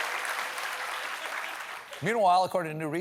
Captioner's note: applause